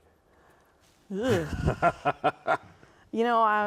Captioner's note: laughs